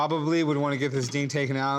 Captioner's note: none